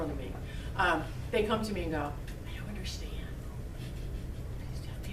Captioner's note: whispering